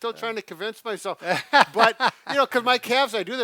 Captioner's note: laughs